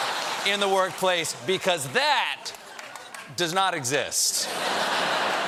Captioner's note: laughter